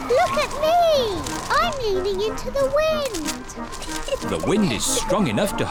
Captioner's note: giggles